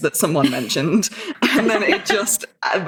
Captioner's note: laughing